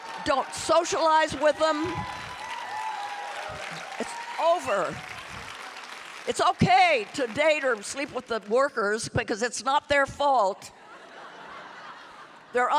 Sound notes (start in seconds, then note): 2.4 audience applauding and cheering; 10.8 audience laughing